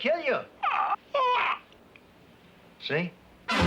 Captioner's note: groans